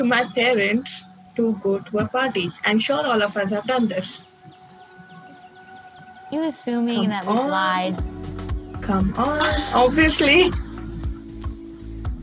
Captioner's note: chuckles